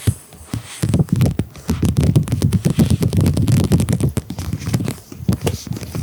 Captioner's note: clatter